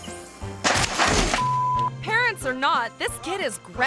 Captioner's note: beep